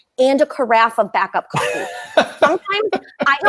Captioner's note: laughing